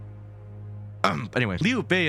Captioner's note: ahem